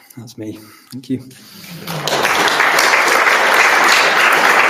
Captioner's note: applause